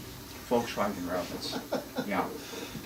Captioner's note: laughs